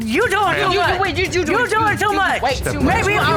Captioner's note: mocking